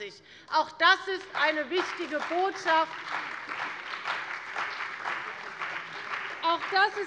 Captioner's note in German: Beifall bei der CDU und dem BÜNDNIS 90/DIE GRÜNEN